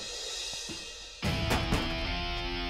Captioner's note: Van door closes